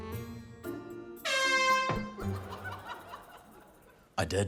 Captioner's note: honk!